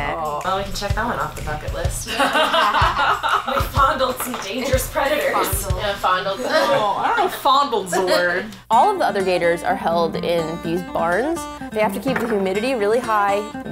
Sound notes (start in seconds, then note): 2.0 girls laughing